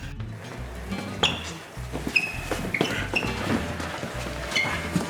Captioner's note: feet frictioning